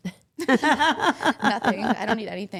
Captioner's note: laughing